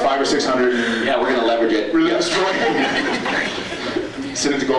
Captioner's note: laughs